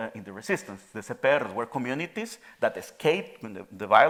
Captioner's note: speaking in Spanish